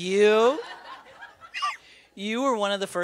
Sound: laughter

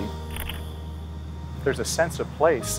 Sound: camera clicks

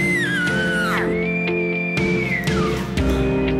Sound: caller bugling

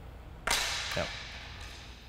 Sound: racket thuds

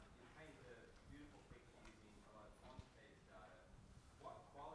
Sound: speaking quietly

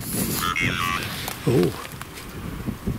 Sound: sighs; Ovilus makes sound like "reason"

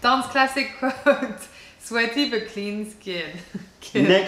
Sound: laughter

